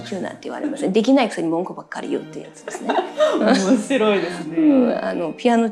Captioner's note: laughs